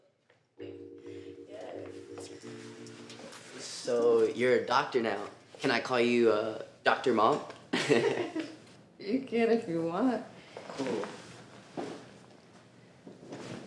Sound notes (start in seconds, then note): 3.1 upbeat music; 7.0 laughs softly